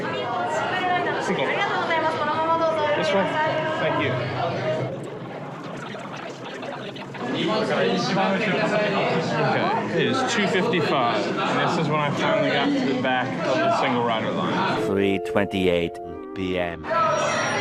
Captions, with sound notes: Single? Single rider? Single. (speaking Japanese) This way? Thank you. Okay, it is 2:55, and this is when I finally got to the back of the single rider line.